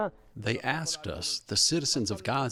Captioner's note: through translator